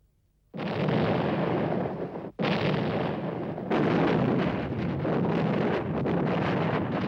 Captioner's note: explosions